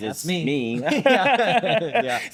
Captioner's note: both laughing